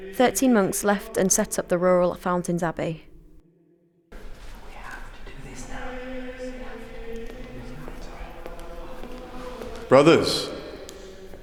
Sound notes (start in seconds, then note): 4.3 whisper; 6.6 monastic singing; 8.2 footsteps